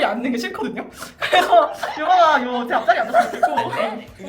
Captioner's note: laughter